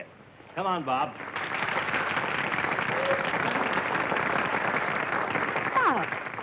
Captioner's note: applause